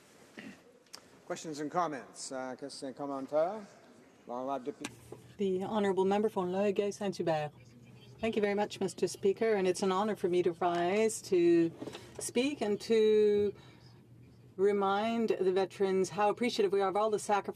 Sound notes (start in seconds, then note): 9.6 speaking French